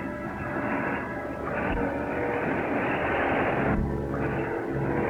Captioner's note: engine rumbles; tense music